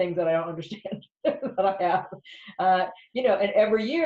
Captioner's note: laughs